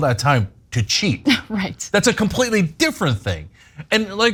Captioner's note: laugh